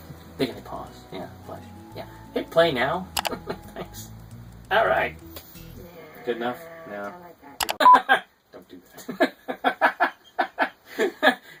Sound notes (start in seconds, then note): 3.2 click; 3.3 chuckling; 7.6 click and beep; 9.0 chuckling